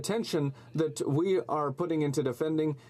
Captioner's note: speaking French